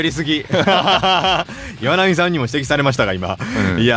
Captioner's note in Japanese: 笑い